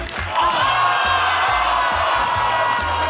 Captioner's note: audience shouts